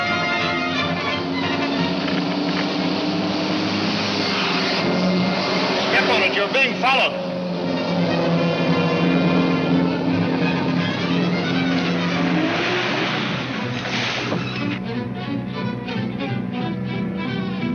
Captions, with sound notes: (radio crackles) - Step on it, you're being followed.